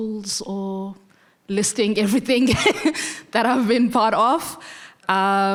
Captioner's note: laughing